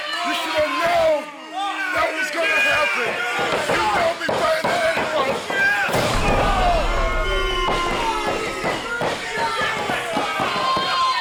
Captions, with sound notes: You should've known that was gonna happen. [CROWD BOOING]